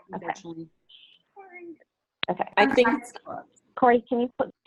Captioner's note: speaks faintly